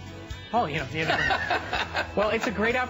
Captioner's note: laughter